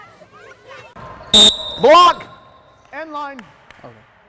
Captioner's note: whistles